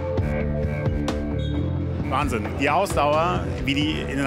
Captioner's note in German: Pfiff